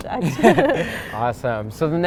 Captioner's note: both laughing